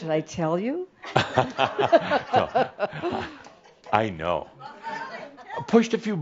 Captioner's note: they chuckle